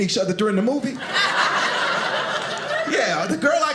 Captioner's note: audience laughing